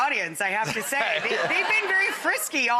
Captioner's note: Matt and audience laughs